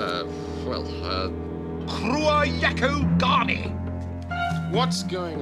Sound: speaks in African dialect

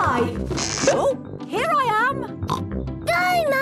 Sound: pops

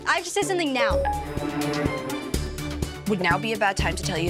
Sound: phone beeps

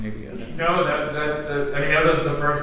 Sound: stammers

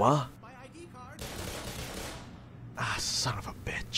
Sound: gunfire

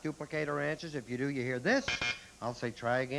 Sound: buzz buzz

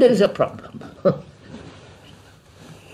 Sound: laughs

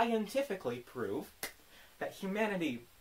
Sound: clap

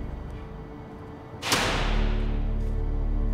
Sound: door closes

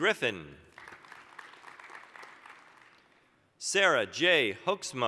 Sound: applause

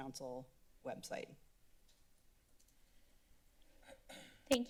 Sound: typing sound

